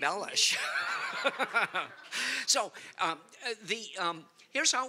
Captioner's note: laughter